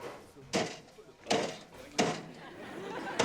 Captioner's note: cash register clanks; audience laughs